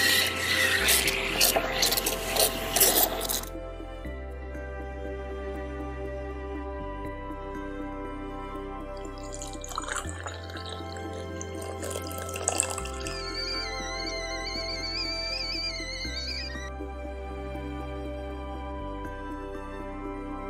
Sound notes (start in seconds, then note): 0.2 coffee machine whirs; 9.0 coffee flows; 13.9 kettle whistles